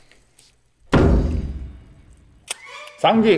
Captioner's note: thud